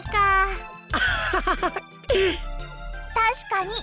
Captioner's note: laugh